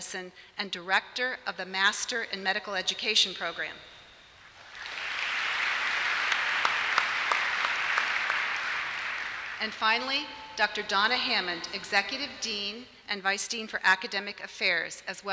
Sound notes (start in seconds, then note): 4.5 applause